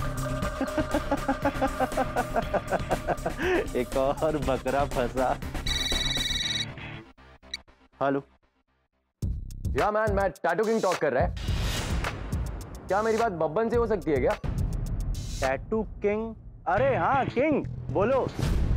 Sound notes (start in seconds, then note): 0.4 laughs; 5.6 cell phone ringing